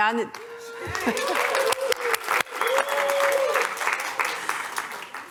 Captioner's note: applause